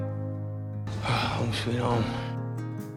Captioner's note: sighing; voiceover